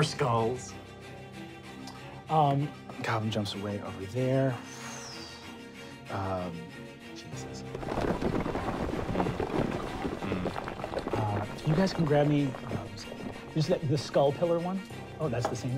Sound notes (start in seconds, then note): 7.7 crumbling